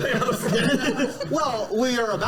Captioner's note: laughter